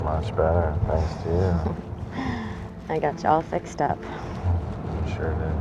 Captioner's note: chuckles